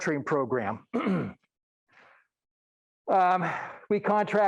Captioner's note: clears throat